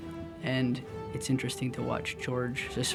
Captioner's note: none